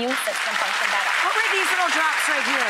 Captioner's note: audience applauds